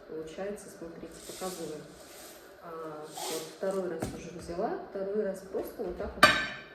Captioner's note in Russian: фыркает